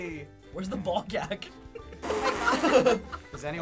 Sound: laughter

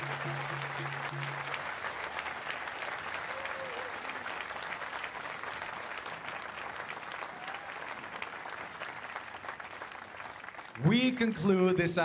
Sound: cheers and Applause

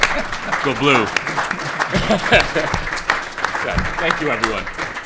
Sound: applause

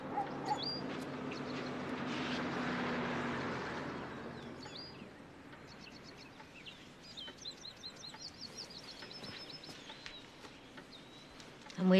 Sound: dog barking

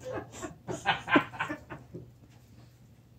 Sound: both laughing

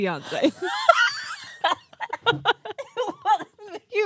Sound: group laughs

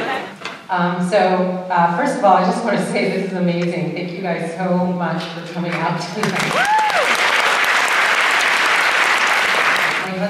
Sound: applause

